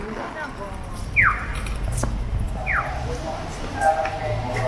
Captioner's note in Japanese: 横断歩道の誘導音